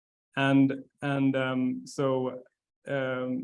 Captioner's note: stammering